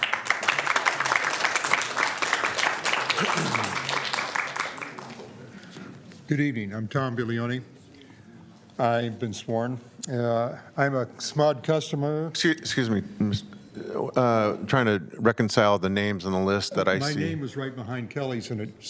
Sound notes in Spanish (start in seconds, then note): 5.9 aplausos